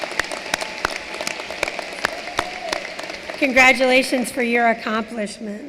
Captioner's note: cheering and applause